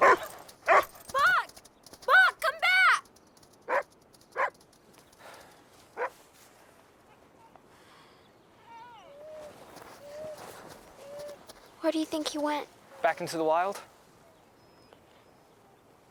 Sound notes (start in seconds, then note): 0.0 Buck barking; 5.7 Jack sighs; 9.0 dogs whining